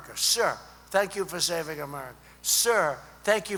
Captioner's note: none